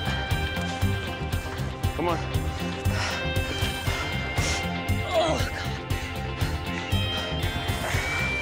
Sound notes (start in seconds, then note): 3.4 panting and groaning